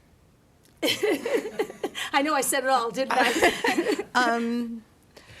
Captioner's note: laughter